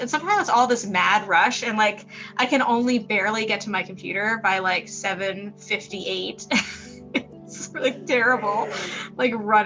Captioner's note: laughs